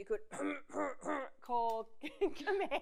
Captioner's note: makes throat clearing sound